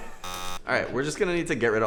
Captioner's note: buzzer